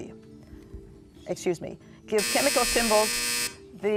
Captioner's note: buzzer